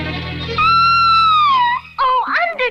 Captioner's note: Sweet Polly Purebred Screams